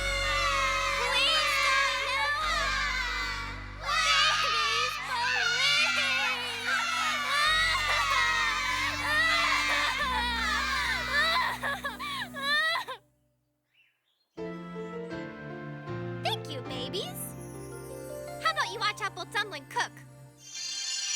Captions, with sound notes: PLEASE DON'T YELL! [ Sobbing Continues ] BABIES, PLEASE! [ Sobbing ] [ Sobbing Stops ] THANK YOU, BABIES. HOW ABOUT YOU WATCH APPLE DUMPLIN' COOK?